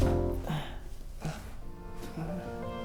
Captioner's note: moans; piano music